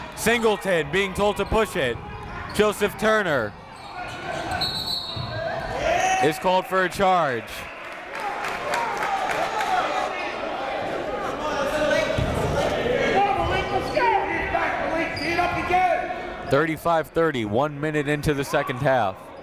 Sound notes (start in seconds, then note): 9.2 coaches yelling; 9.2 crowd talking